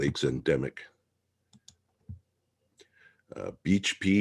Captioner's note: mouse clicking